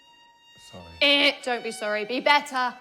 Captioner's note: mimics alarm buzzing